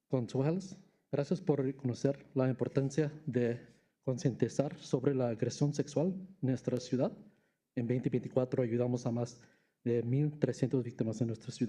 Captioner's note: speaking spanish